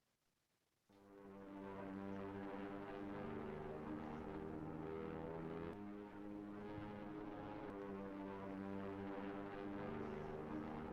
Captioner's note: sound of aircraft buzzing through the sky